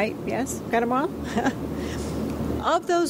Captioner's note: laughs